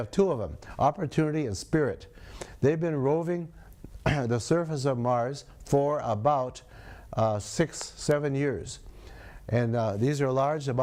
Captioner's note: clears throat